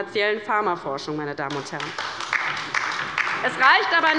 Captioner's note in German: Beifall bei der LINKEN